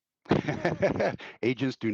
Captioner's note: laughing